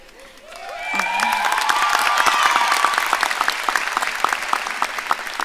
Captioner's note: audience cheering and applauding